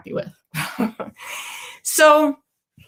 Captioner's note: chuckles